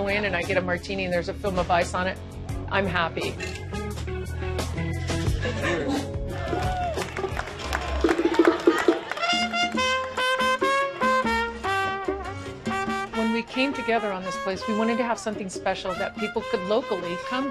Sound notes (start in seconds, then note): 6.2 cheers and applause